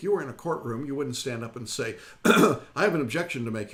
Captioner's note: clears throat